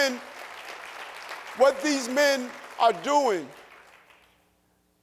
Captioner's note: applause